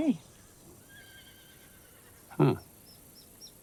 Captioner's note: horse whinnying